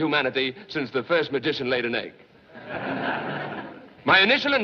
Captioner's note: laughter